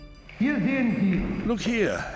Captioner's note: speaking German